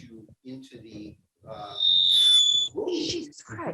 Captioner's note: microphone squealing